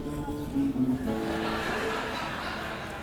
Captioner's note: makes scratching sounds